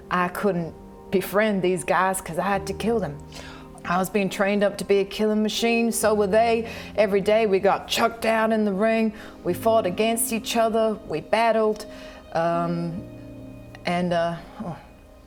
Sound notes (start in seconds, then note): none